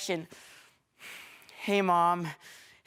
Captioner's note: heavy breathing